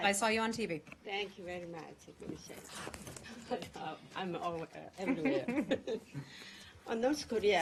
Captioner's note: laughter